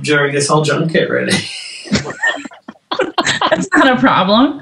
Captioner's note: laughing